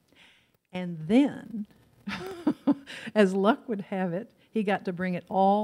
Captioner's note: laughs